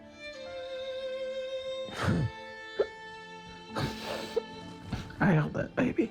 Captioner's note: cries